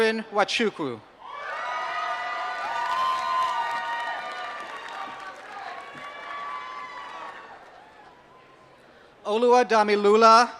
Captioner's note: applause